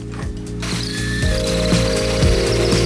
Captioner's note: drilling